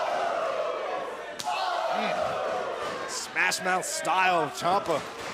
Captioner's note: crowd cheering